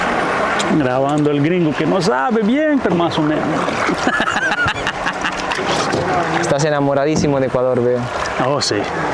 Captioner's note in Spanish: risas